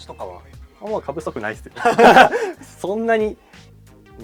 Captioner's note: laughs